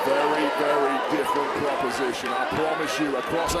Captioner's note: crowd cheers